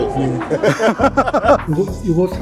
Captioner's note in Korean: 웃음